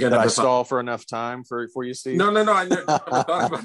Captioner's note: laughs